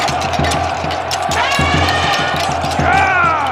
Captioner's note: intense battle sounds; elephant trumpets